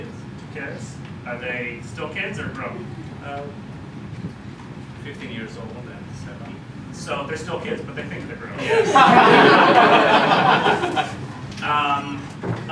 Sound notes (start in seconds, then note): 8.6 laughter